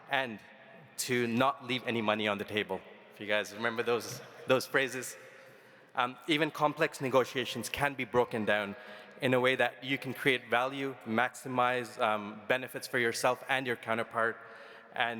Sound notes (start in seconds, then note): none